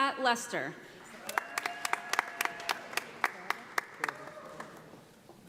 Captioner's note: audience applauding